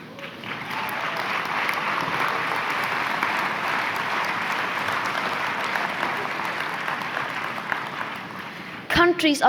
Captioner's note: applause